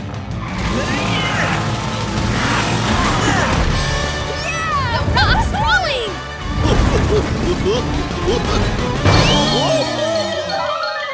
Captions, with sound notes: [grunting] [grunting] - Yeah! - The rock's rolling! [giggling] Who-oa!